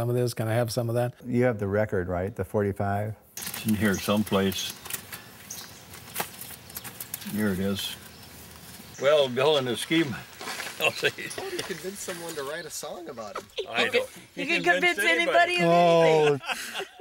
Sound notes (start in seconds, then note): 10.8 laughter; 12.0 voiceover; 14.5 voiceover